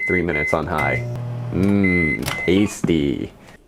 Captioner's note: beeping from the microwave; slam noise from the hot dog